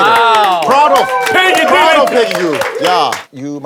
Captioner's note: everyone clapping